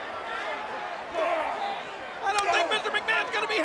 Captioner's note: Kane grunts